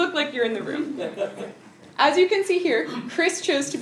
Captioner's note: laugh